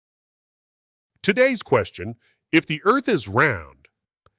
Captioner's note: none